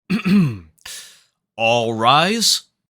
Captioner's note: clears throat